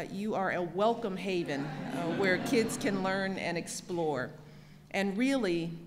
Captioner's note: laughter